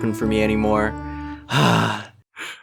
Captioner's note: sigh